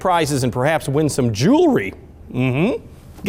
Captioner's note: hums